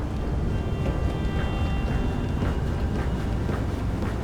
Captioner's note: heavy footsteps closing in